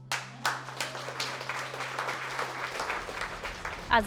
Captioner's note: crowd claps